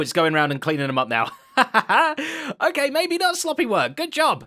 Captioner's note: laughs